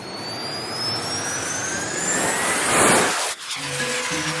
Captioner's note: rocket engines firing for take-off